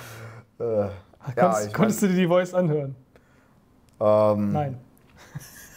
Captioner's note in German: lacht